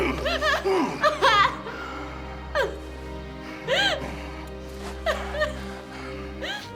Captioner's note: Margaretha gasping